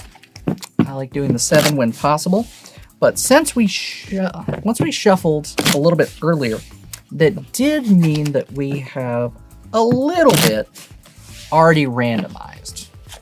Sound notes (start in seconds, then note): 1.2 cards shuffling; 9.4 cards shuffling